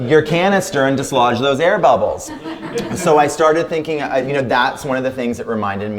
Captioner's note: laughter